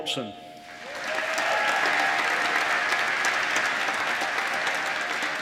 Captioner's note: applause